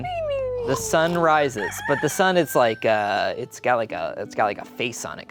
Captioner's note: rooster crowing